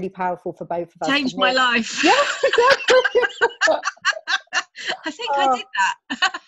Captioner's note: both laughing; laughs